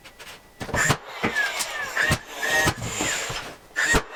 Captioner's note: tool whirring